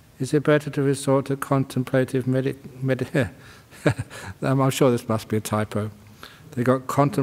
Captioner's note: chuckles